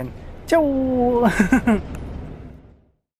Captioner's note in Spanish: risas